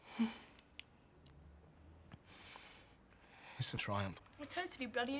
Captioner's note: Loz sighs